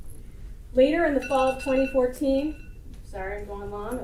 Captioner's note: alarm rings